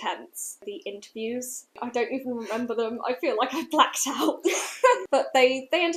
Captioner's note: laughter